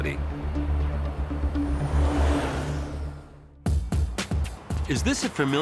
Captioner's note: upbeat electronic music; airboard whirring; upbeat music